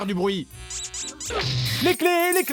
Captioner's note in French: couinement canard plastique; cliquetis de clés